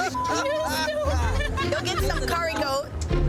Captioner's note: woman laughing